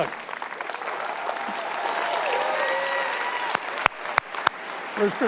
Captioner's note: audience applauding